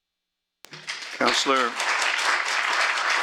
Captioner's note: applause